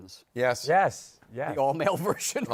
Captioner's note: laughing